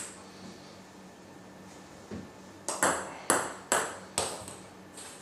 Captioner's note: balls ping pong hitting continues